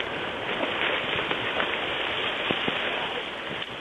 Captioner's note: rustling sounds in the woods